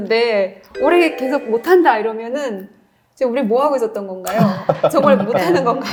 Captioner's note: sounds of laughters